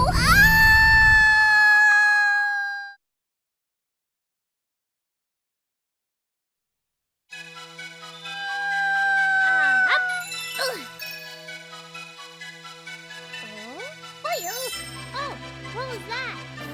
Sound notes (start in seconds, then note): 0.0 screaming; 8.4 continues screaming